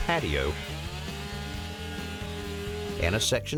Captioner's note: trimmer buzzing